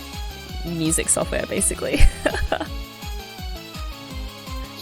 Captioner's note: laughs